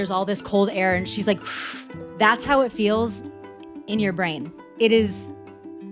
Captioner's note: breath